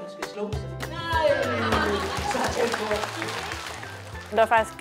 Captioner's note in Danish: Børn griner